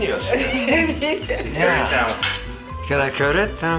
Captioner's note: laughing